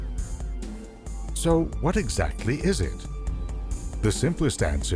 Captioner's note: bouncy electronic beats; voiceover